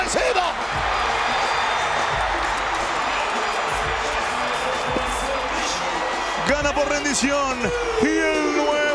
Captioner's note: applause